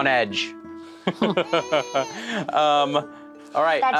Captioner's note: laughs